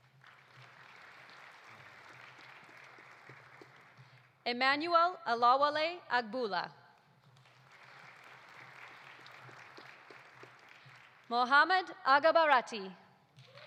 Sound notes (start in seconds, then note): 0.0 audience applauding; 7.2 audience applauding